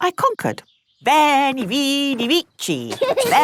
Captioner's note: laughing